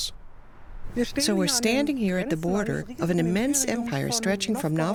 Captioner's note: in German